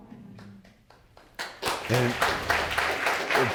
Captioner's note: all applauding